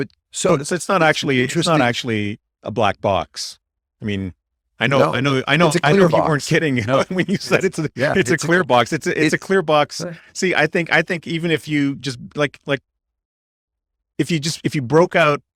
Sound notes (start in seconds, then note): 8.2 laughs